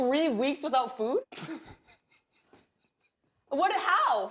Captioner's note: laughs